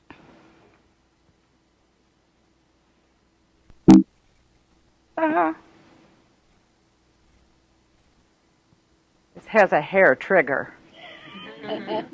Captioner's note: laughter